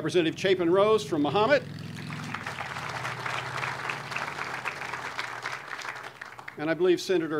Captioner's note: audience applause